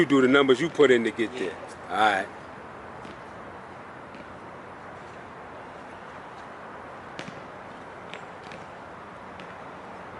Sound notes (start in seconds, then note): 3.7 traffic humming